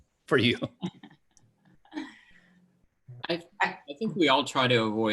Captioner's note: laughing